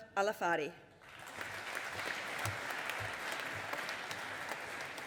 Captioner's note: audience applauding